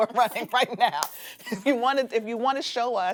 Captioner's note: both laughing